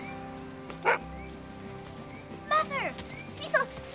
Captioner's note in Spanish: BRUNO Ladra